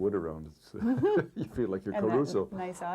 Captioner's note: chuckling